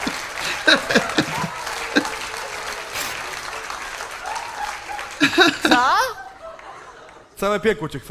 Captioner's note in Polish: Aplauz